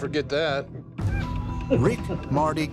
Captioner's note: laughs